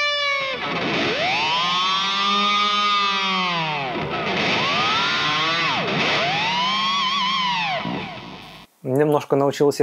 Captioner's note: Dimebag's squeals sound